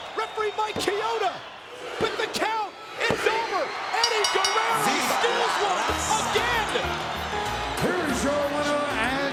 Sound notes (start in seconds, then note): 4.0 bell rings